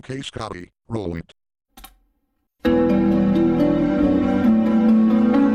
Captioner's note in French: cliquement sur la barre d'espace, musique en cours